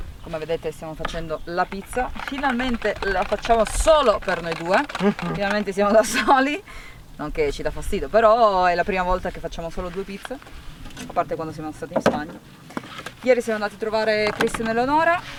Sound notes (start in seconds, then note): 5.0 laughs